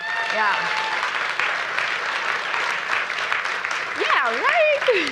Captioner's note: applause and cheering